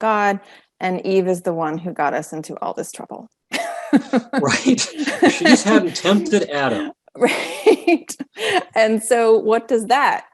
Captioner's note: both laughing